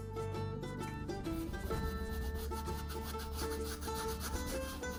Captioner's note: brush scratching